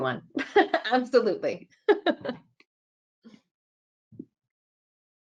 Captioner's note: laughing